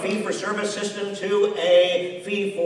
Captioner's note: applause